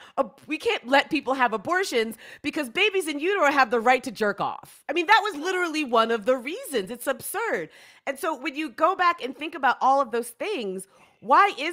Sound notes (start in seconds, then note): none